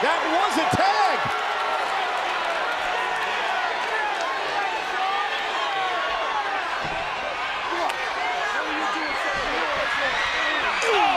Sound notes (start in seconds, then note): 1.5 crowd exclaiming; 7.9 crowd chattering drowns out Cena and Batista speaking